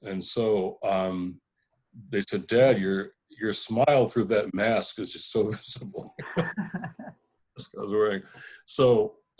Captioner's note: laughing!